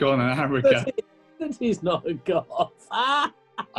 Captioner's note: laughing